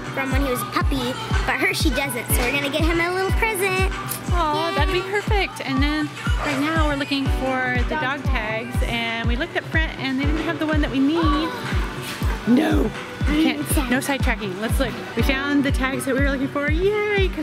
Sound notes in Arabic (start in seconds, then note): 11.8 الشهقات